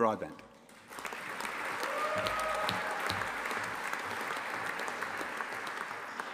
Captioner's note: audience applauding and cheering